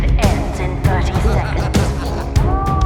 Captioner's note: heavy and medic laughing noises